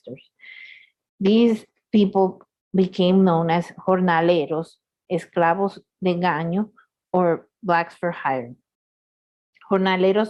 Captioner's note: spanish